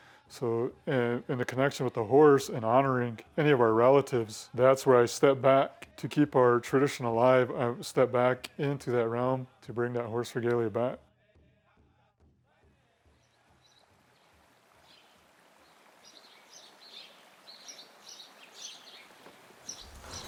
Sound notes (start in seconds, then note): 13.8 birds chirp